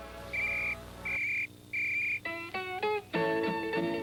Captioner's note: whistle blows